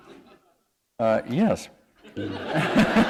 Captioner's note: laughter